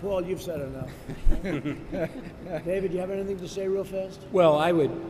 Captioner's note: laughter